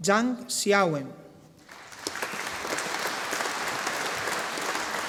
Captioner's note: audience applauding